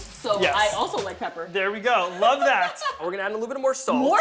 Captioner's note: laughs